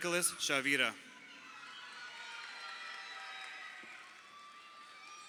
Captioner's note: crowd cheering